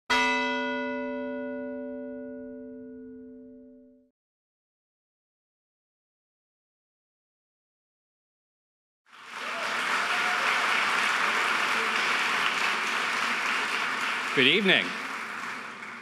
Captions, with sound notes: (bell ringing) (audience applauding) - Good evening.